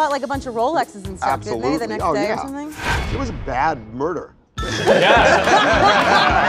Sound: laughter

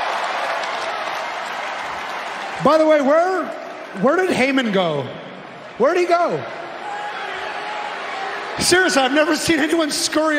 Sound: cheering

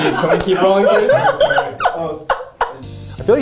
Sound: laughing

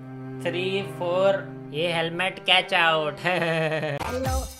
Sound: mimics

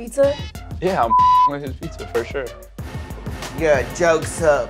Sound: beep

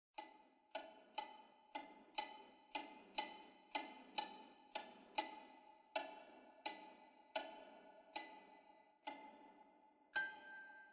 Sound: grandfather clock ticking

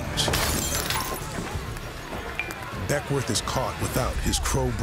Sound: glass shatters

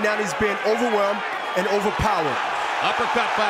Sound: crowd cheering

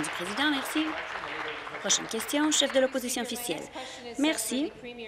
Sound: applause

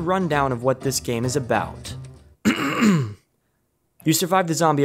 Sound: clears throat

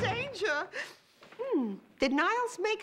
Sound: sniffs

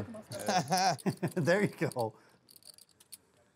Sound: laughs

